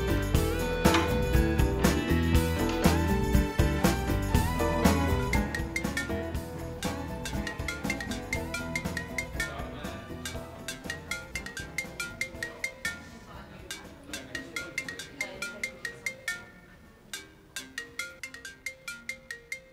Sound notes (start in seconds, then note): 5.2 sound of ring signal